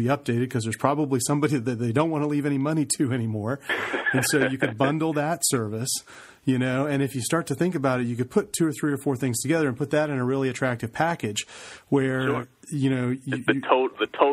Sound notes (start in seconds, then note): 3.6 laughs